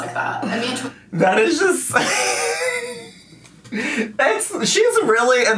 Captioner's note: laughs